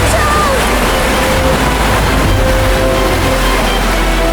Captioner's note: water gushes